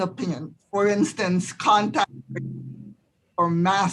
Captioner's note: audio breaks